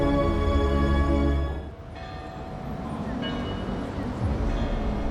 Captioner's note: bell tolling